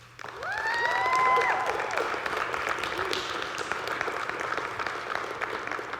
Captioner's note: audience clapping; audience cheering